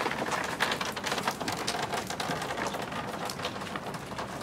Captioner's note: rain dripping